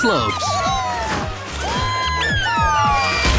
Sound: cheering

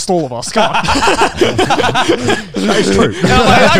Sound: all laughing

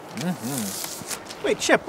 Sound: officer humming

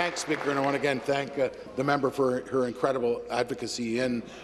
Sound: applause

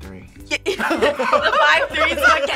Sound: all laugh

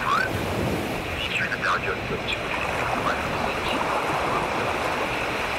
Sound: announcer fades into radio static

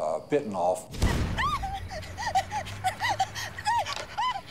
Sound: screaming

